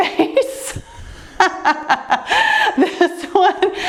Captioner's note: laughing